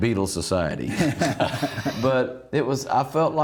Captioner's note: laughing